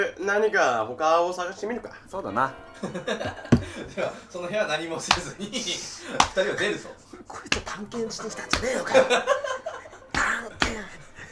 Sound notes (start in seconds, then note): 2.8 laughing; 3.5 hitting table; 8.1 laughing